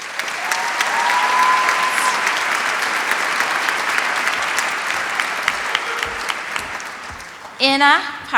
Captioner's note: applause